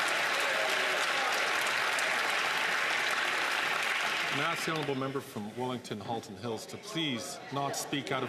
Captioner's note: some Applause